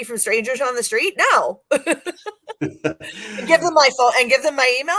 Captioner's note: laughs